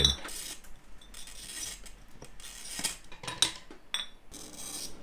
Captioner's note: glass clinking